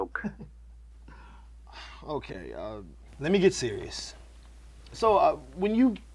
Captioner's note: laughs